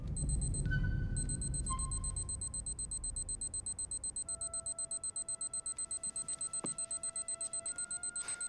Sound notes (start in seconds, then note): 1.7 watch beeping